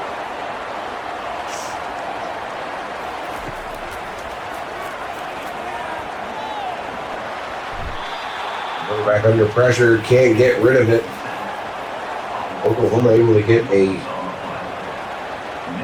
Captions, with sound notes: [Crowd Noises] Going back under pressure can't get rid of it. [Crowd Noises]